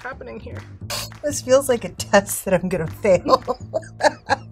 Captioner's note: chuckling; snickers